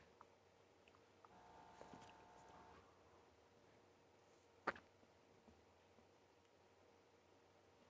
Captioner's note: silence